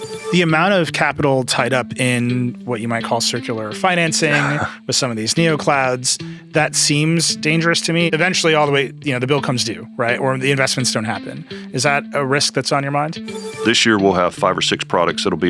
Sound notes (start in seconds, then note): 0.0 electronic ringing; 13.2 electronic ringing